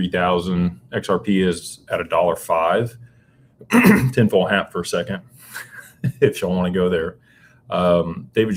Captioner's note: clears throat; laughter